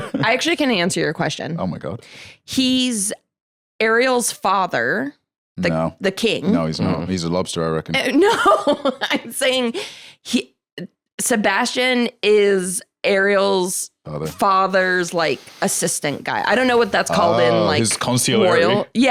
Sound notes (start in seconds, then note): 9.3 laughs